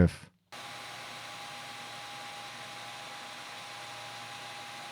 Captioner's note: machine humming